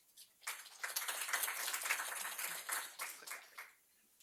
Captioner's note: group applauds